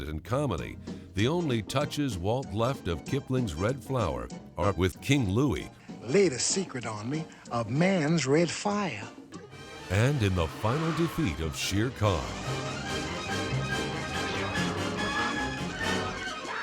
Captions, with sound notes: the only touches Walt left of Kipling's red flower are with King Louie... Lay the secret on me of man's red fire. ...and in the final defeat of Shere Khan. [snarling]